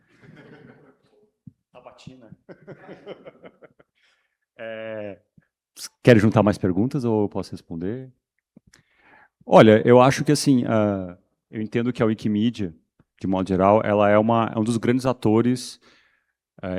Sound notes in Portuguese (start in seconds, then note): 2.4 risadas